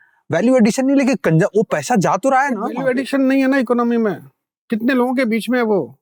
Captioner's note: both speaking in Hindi